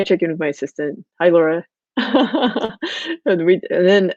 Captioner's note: laughs